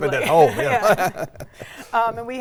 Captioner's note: laughs